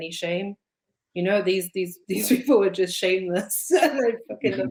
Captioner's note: chuckles